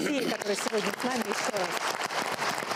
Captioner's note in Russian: Аплодисменты